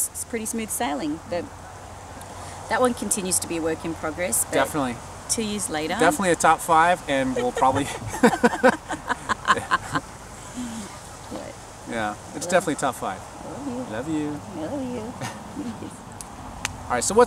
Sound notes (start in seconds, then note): 7.9 laughing